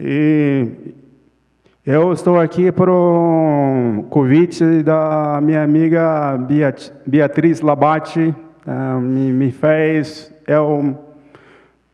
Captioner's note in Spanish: Ponente habla en portugués